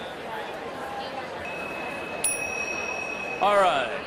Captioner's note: bell ringing